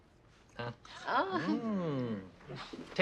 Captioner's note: group goes ooh